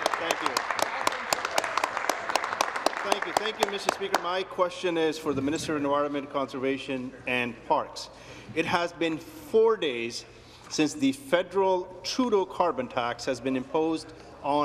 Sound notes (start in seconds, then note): 0.0 applause